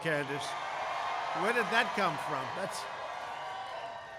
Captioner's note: applause